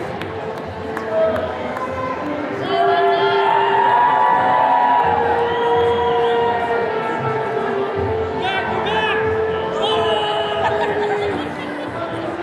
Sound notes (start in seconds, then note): 1.0 attendees continue cheering